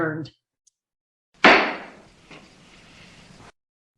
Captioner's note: sound of gavel bang